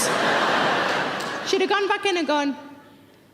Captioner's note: audience laughs